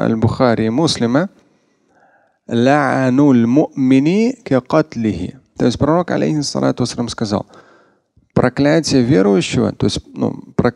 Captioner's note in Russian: Говорит на арабском